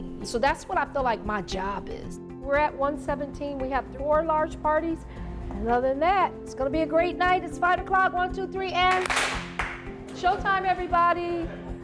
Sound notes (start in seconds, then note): 8.8 people clapping